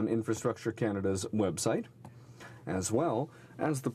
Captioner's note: speaking french